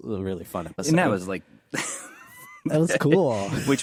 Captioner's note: laughs